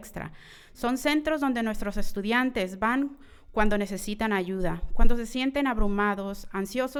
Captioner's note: continues speaking in foreign language